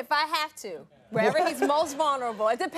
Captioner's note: audience laughing